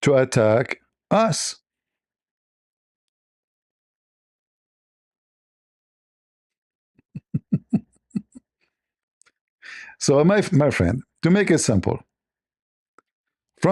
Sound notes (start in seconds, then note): 7.1 Ketawa